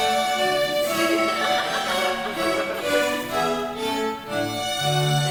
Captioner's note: audience laughing